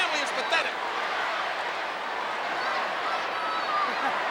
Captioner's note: crowd yelling